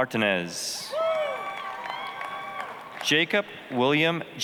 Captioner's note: applause, cheering